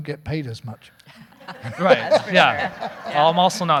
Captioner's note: all laughing